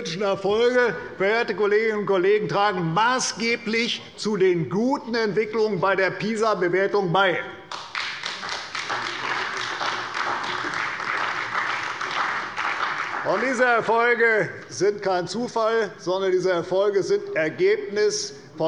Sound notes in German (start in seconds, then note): 7.6 Beifall bei der CDU und dem BÜNDNIS 90/DIE GRÜNEN